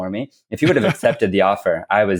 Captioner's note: laughs